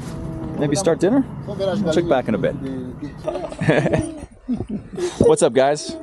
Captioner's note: laughing